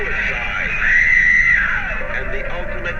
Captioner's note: screams